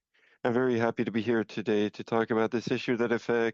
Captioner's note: speaking French